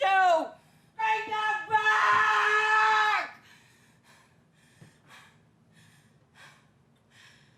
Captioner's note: panting